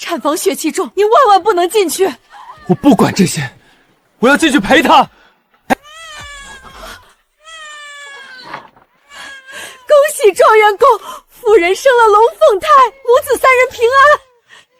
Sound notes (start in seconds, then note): 5.9 screaming